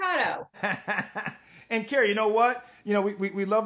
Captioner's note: laughs